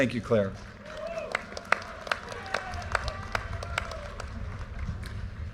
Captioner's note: audience cheers and applause